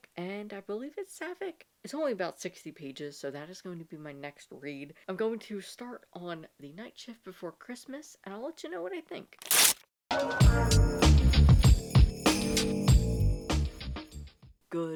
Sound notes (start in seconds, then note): 9.4 paper rip